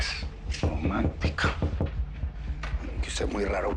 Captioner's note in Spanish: Toques en la puerta